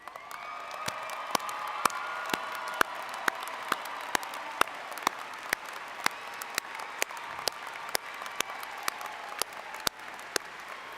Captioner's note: applause